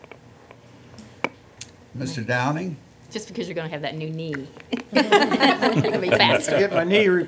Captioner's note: laughter